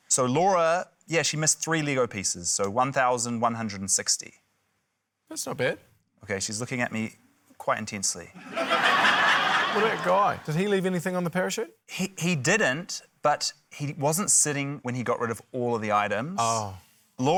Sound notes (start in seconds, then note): 8.4 laughter